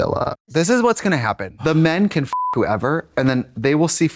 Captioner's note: beep